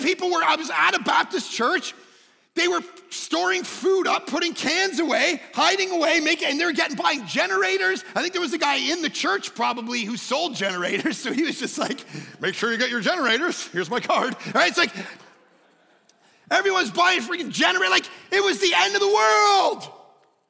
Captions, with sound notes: I was at a Baptist church, they were storing food up, putting cans away, hiding away, and they're getting by generators. I think there was a guy in the church probably who sold generators. So he was just like, "Make sure you got your generators. Here's my card." Right? It's like, (congregation laughing) everyone's buying freaking generators. Like, it was the end of the world.